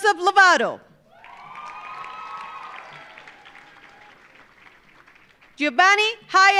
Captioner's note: audience cheering; audience applauding